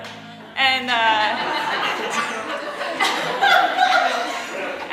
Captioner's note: audience laughing